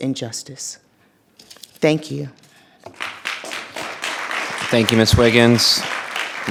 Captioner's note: audience applauding